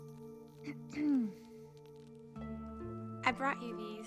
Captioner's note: lee clears throat